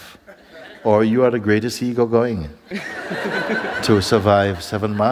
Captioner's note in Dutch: gelach